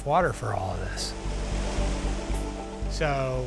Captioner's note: rushing water